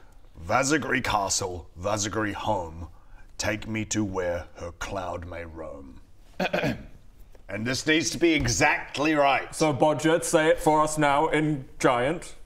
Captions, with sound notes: Waarzegrie castle, Waarzegrie home take me to where her cloud may roam *ahem* and this needs to be exactly right So Bodger, say it for us now, in giant